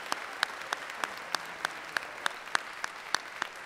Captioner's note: applause